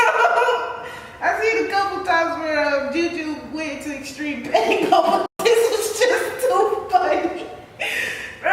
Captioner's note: laughs; uncontrollable laughter